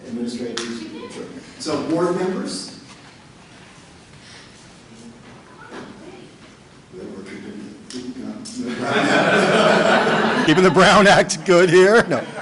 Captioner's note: laughter